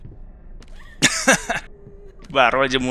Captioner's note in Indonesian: ketawa